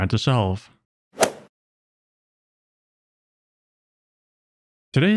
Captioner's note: golf ball hit sound